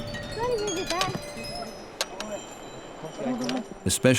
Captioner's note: speaking foreign language